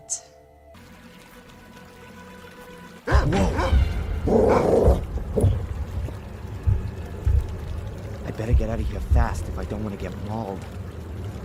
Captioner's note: tense music; bark bark